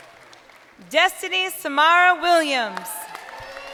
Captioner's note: crowd cheering